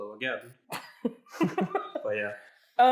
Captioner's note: laughs